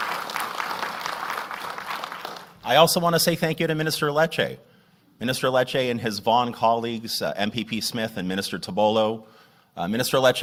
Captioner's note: applause